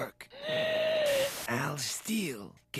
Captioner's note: wheezes